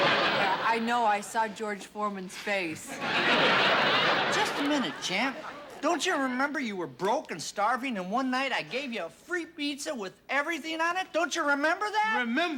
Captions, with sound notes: I know. I saw George Foreman's face. [ Laughter ] Just a minute, Champ. Don't you remember you were broke and starving and one night I gave you a free pizza with everything on it? -Don't you remember that? -Remember?